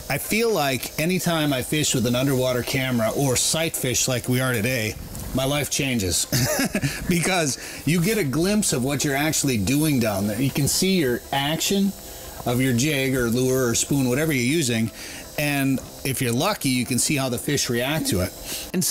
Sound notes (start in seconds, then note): 6.3 laughs